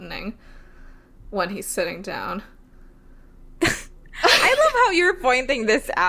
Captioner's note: laughing; laughs